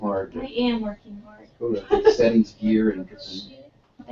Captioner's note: laugh